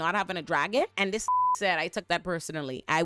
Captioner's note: beep